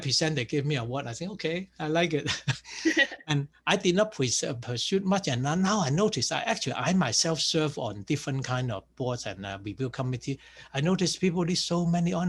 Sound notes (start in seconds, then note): 2.2 laughs